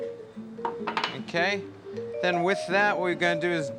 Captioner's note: clang